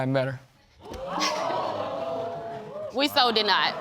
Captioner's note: audience exclaiming; chuckles